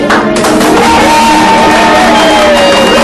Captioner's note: all cheering